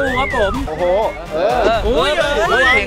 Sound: cheering

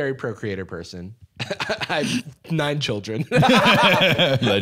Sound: laughs; both laughing

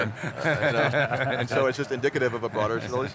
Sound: laughter

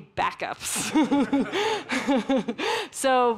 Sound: giggling

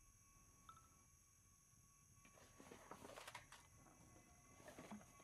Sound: none

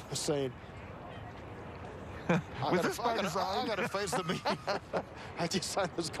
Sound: laughs

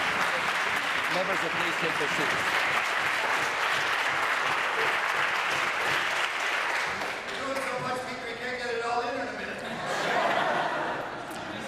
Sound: applause

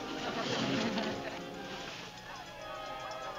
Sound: cheering

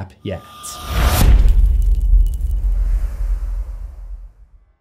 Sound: impact

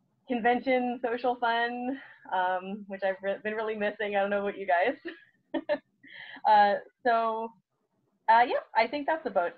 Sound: laughs

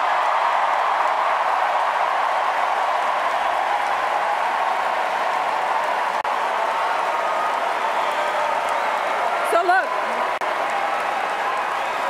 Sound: cheers, applause

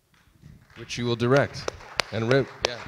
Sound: audience applauds

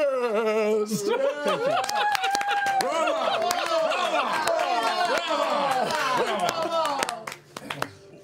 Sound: cheering

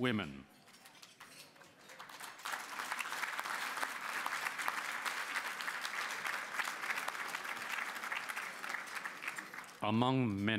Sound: applause

